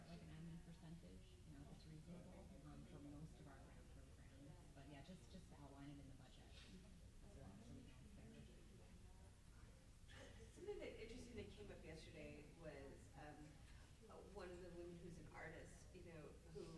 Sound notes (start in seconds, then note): 8.2 murmurs